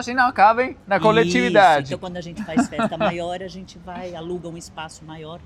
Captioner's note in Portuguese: risadas